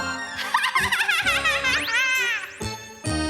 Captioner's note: cackling